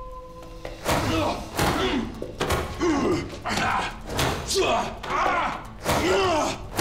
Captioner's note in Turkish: Darp sesleri